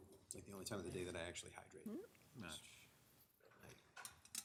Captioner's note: mumbles